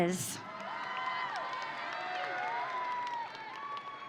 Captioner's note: audience cheering